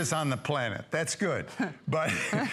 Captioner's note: laughter